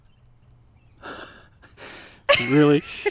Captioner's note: laughing